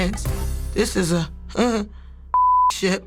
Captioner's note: beep